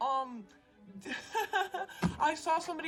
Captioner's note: laughter